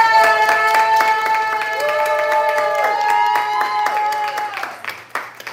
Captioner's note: applause